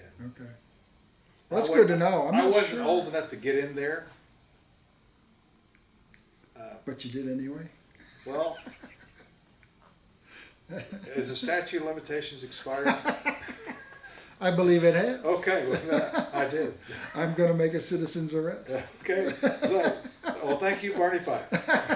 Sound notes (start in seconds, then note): 8.1 laughs; 15.4 laughs heartily; 19.0 laughs